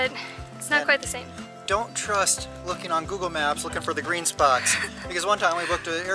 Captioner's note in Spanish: Risas